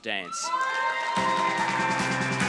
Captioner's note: applause, cheering